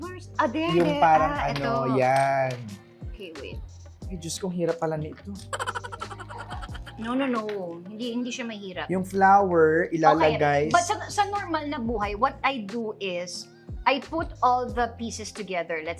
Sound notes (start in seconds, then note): 5.4 laugh sfx